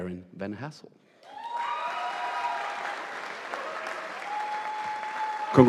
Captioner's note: audience applauding